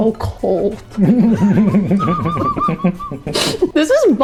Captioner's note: laughter